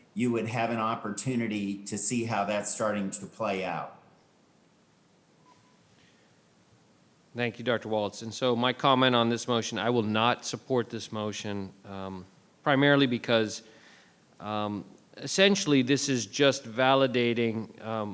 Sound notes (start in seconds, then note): none